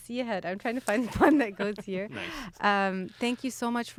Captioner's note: laughs